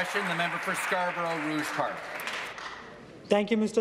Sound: applause

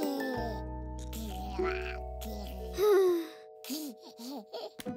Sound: gurgles

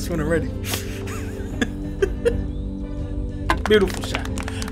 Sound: laughs

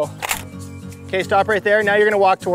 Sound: click

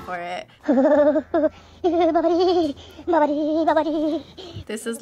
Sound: woman shivers

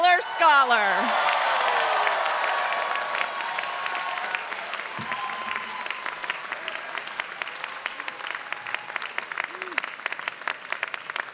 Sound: applause

